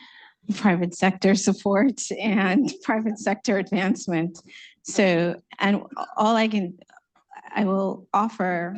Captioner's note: laughter